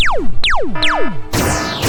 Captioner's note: zap